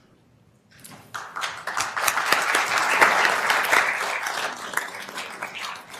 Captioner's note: attendees applauding